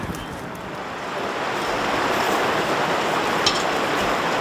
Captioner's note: water roaring